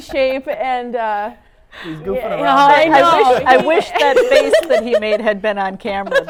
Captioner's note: laughter